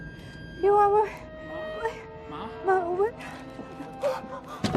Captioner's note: muffled cries